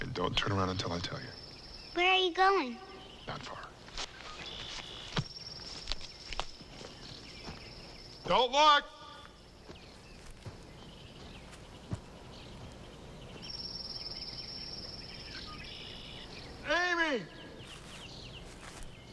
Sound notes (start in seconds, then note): 4.3 birds trilling; 4.3 insects chirping